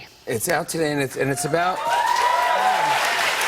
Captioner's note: cheers and applause